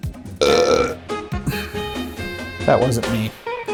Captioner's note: speaker belches